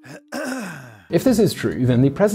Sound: sniffle

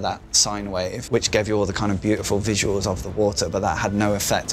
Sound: none

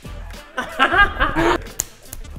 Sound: half-evil laugh

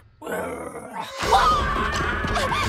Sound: screaming

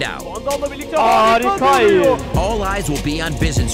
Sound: speaking foreign language

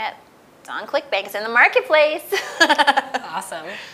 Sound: laughs

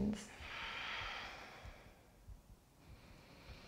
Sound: deep breathing

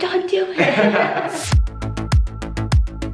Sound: both laugh out loud; upbeat music

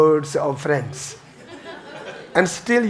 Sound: audience laughing

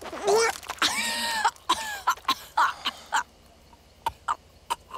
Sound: coughs

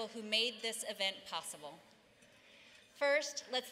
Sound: none

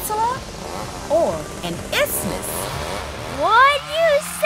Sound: chainsaw buzzes

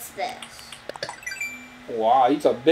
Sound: button noises

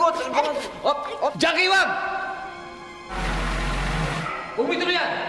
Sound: vehicle approaching

